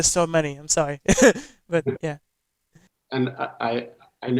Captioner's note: laughs